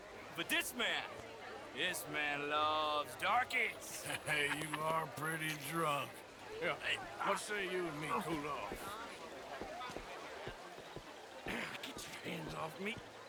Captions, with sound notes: ...but THIS MAN... ...this man LOVES darkies! (laughing) Hey, you ARE pretty drunk! Yeah, what say you and me cool off? Ah, get your hands off me!